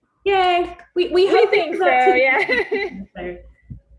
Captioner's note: laughs